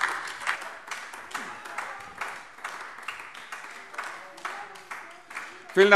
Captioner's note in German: Beifall AfD